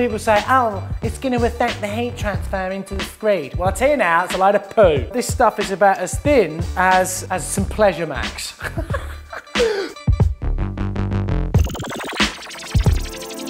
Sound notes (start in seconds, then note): 8.6 laughing; 10.0 electronic music